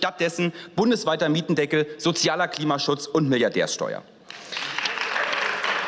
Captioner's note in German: Beifall